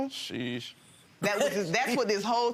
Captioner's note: Lynn laughing